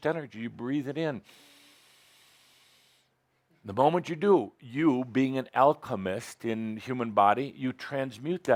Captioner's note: Adamus takes a deep breath